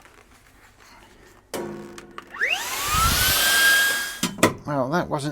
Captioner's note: vacuum Cleaner Sound